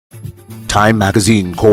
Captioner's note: radio Announcer